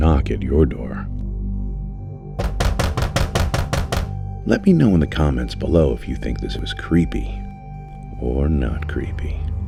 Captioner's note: knocking sound